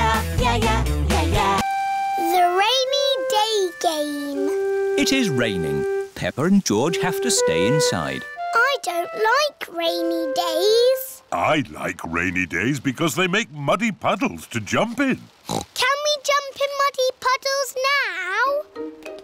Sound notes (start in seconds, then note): 15.4 oinks